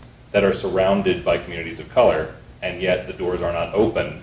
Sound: none

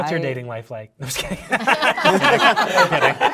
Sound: participants applauding

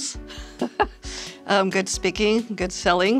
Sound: laughs

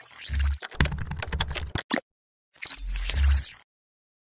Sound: typing; electronic beats

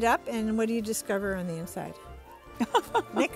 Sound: laughing

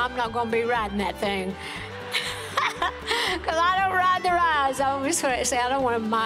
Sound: laughs

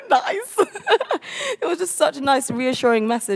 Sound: laughs

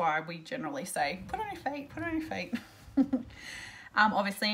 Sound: laughs

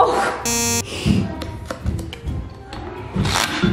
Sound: beeping

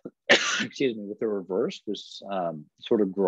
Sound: coughs

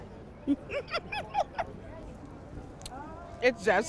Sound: laughing

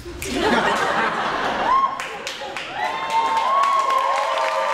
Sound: cheering and applauding

